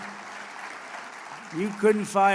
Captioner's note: applause